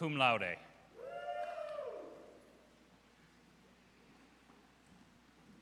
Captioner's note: audience cheers